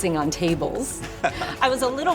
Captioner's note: laughter